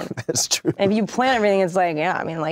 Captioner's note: chuckles